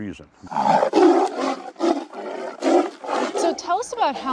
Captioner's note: roaring